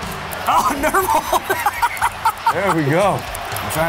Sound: laughs

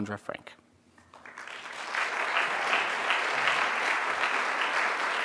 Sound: audience applauding

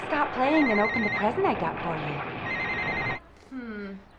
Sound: phone ringing

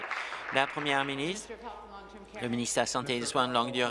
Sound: applause

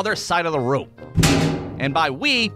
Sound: thud!

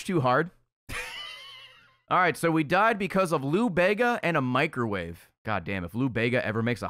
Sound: laughs

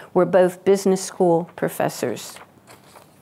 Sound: none

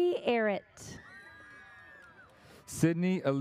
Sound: audience cheers

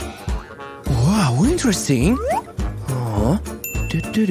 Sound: grunting

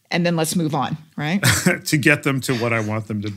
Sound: laugh

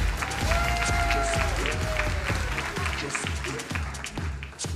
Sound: crowd cheering

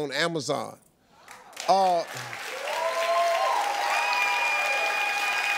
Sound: audience cheering

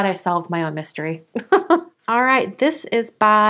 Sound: laughs

